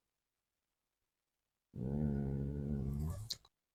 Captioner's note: mmmm